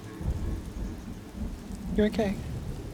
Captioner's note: thunder rumbling; rain pattering